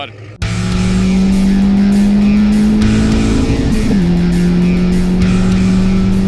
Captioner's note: car engine revving; upbeat music